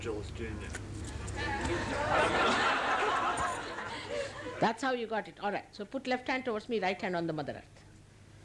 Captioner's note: laughter